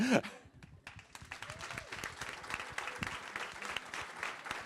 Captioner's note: applause